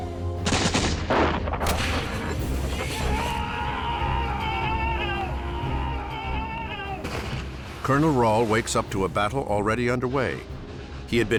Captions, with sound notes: [soldiers screaming] Colonel Rall wakes up to a battle already underway.